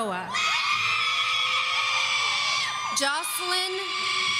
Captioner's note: audience screaming